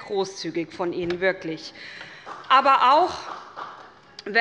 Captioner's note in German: Beifall des Abg